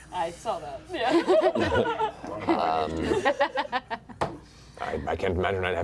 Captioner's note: laughter